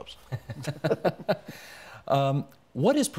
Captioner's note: both chuckling